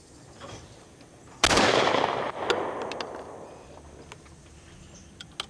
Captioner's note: shot banging